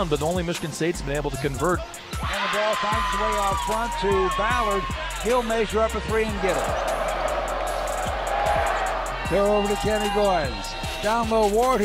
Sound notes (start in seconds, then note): 6.1 crowd roaring